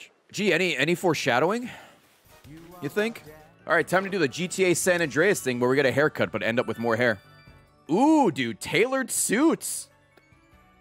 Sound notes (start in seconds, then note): none